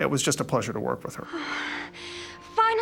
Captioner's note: sighs